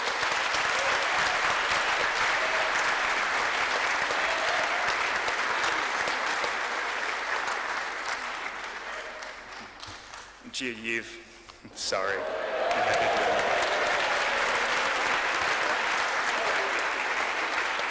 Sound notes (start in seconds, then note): 7.7 clapping, cheering